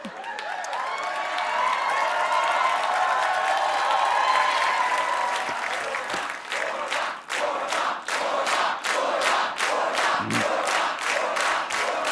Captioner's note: cheers and applause; audience chanting